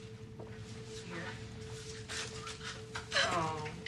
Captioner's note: cries more